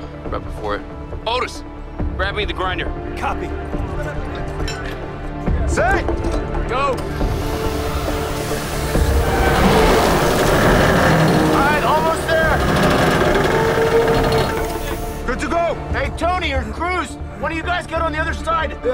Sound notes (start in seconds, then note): 7.1 air hissing